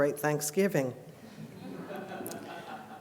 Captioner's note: laughter